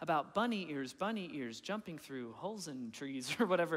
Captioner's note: chuckling